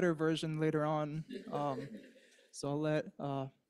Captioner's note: laughs